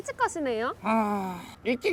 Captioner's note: deep sigh